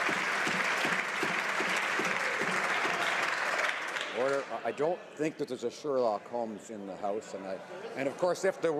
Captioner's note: some Applause